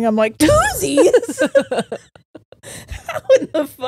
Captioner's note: all laughing